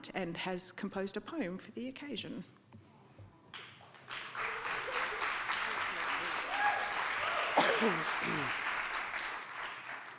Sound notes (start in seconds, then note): 3.5 audience clapping